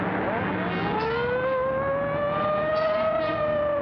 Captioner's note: sirens whine